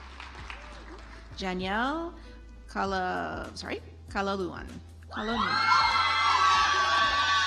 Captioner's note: audience applauds